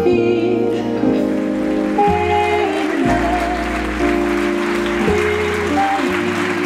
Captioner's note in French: Applaudissements